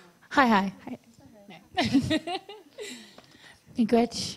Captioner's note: laughs